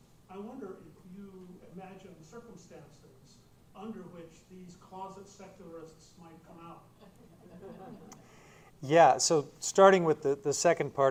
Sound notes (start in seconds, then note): 7.0 laughter